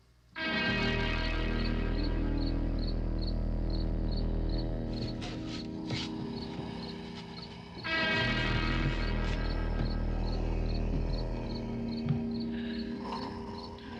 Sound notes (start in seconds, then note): 0.1 foreboding instrumental music; 2.0 insects chirping; 6.0 groaning